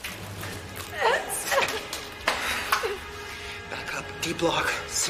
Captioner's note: Sondra gagging